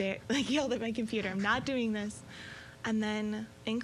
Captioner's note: chuckling